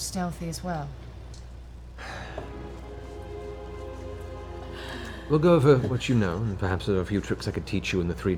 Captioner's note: sighs